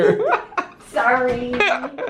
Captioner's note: laughter